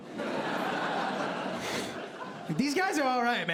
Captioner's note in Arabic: ضحك